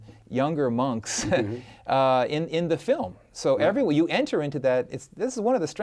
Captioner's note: chuckles